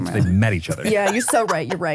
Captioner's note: laughs